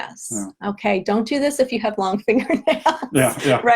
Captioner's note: laughs